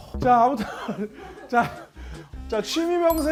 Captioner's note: awkward laugh